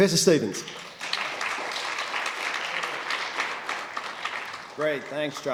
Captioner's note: applause